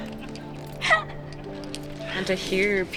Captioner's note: laughs